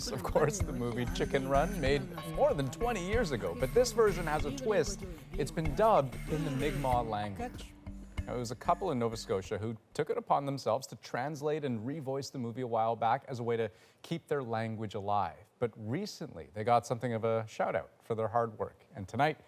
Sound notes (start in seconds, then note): 0.5 speaking native language